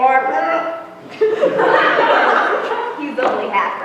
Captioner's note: laughter